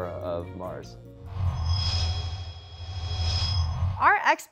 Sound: sound Effects

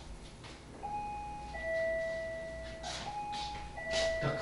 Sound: ding dong

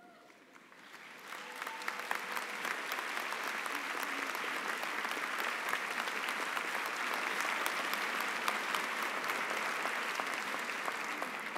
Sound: applause

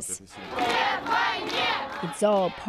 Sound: speaking Foreign Language

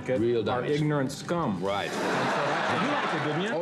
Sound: laughter

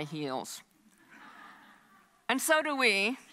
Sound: audience laughs

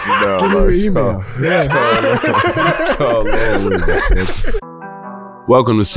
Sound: laughs

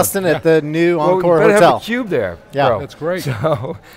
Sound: laughs

